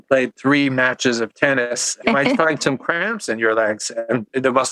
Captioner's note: laughs